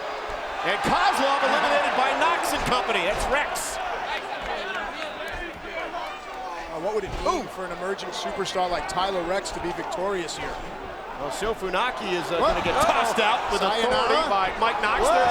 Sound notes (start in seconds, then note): 4.0 applause